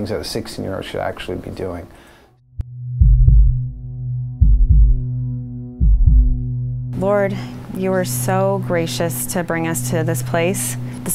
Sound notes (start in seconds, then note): 3.3 sound of heart beating